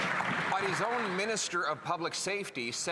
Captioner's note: applause